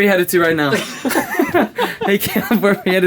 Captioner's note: laughing